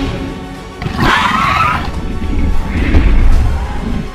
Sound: attack sounds

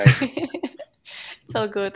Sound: laughter

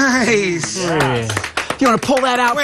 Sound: applause

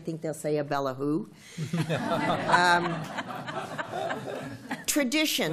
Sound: laughter

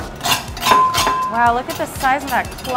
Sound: knife scraping

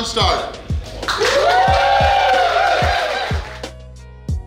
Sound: cheering & Clapping

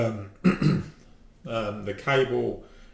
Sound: clears throat

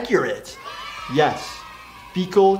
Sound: cheering

